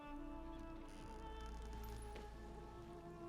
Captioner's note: floor creaks